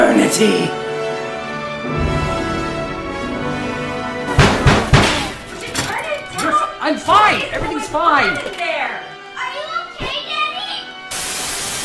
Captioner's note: loud banging